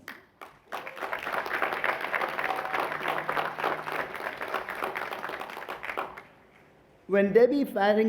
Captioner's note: applause